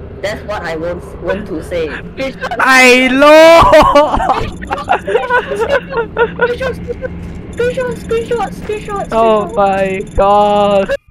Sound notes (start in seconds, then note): 4.8 Discord message sound